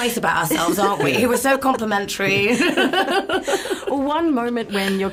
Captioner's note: chuckles